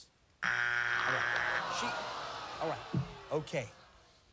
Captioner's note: buzzer